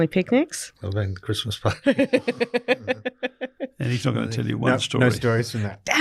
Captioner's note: laughs; group chattering